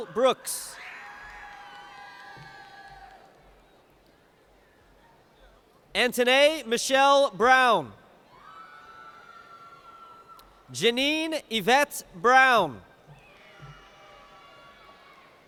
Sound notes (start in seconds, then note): 0.0 cheers